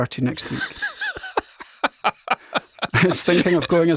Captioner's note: laughs